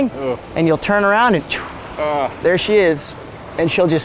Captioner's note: whoosh